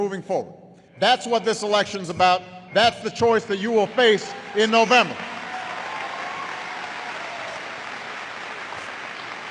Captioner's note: applause